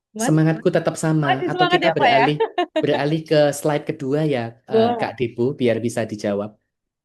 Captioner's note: tertawa